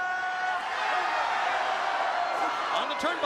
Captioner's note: crowd chants "Hooo"